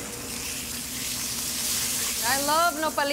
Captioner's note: pan sizzling